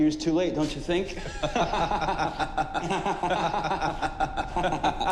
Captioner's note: both laughing